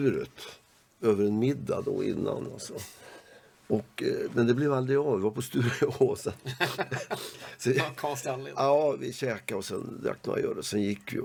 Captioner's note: laugh